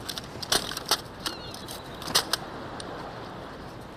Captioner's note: birds tweeting